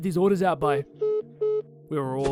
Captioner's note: dial tone noises